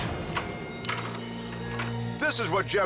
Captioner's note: chimes ring; doorknob clicks